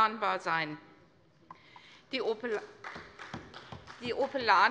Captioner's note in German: Beifall bei Abgeordneten der CDU